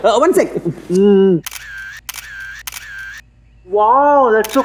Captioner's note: Camera shutter clicks